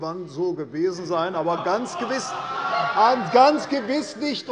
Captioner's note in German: Lachen bei der SPD